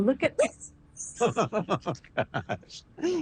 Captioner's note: laughing